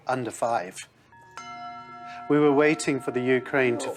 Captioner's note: bells ringing